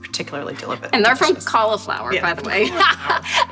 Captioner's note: laughs